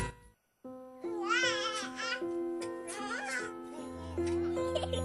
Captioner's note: baby crying; child laughing